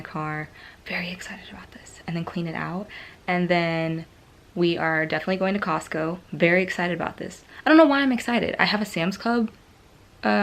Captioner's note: whispering